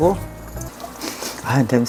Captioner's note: sniff sniff